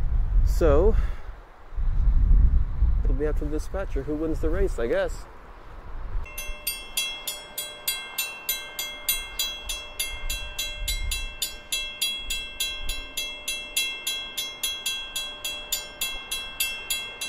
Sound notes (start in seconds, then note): 6.2 high pitched crossing bell, repeated 4 times per second; 11.8 bell continues past this caption